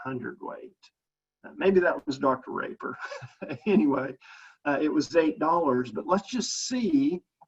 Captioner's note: giggles